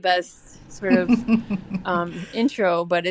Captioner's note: laughter